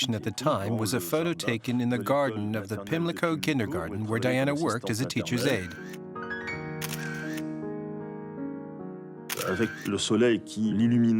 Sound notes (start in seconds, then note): 5.9 clicking